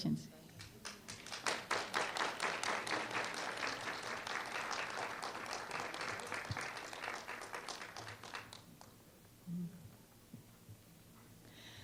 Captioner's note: applause